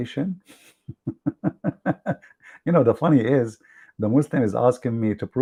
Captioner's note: Ketawa